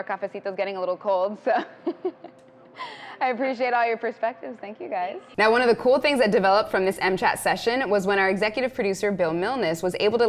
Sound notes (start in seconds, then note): 1.6 laughs